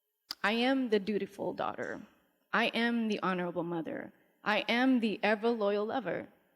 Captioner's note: none